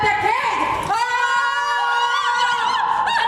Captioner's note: shouting